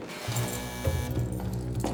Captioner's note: buzzer